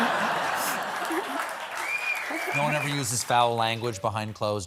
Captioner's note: laughter